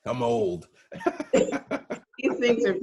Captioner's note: both chuckling